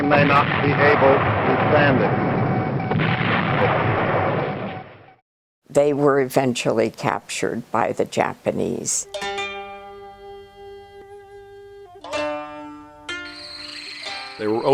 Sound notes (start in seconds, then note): 2.6 explosions; 9.0 gentle Oriental music